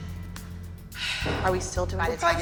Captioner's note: sighs